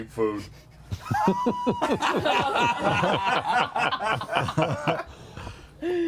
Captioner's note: laughter